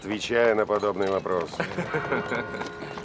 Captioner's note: chuckles